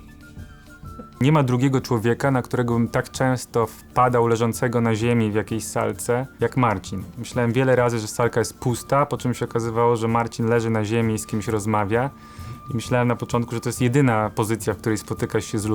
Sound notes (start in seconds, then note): 1.4 in Polish